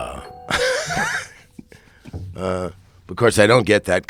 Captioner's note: laughing